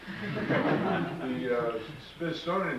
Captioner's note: audience laughs